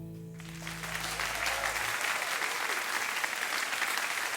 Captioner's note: audience applause